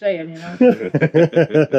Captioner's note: laughing